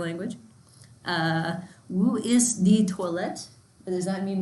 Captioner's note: in foreign language